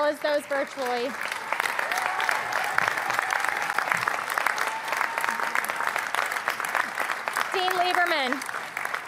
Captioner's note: applause